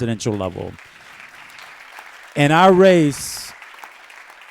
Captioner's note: applause